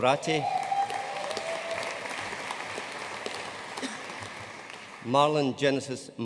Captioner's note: audience cheering and applauding